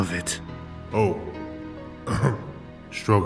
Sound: ahem

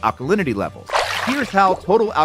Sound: water splashing

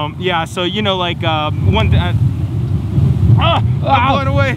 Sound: wind wooshes

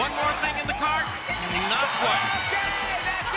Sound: bell rings

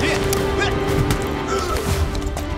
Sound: Kah'Nath thuds

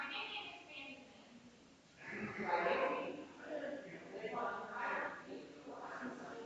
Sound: people chattering distantly continues

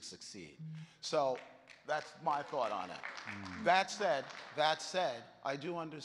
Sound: audience clapping

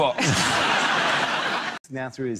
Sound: audience laughs

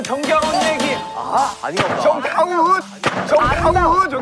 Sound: ding!

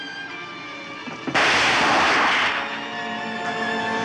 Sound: gunshot

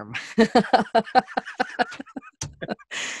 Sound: laughter

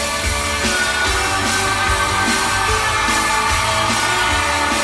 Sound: audience cheering

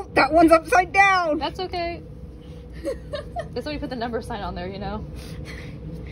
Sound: laughing

